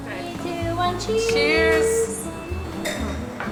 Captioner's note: cheers